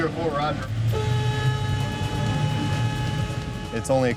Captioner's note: horn blowing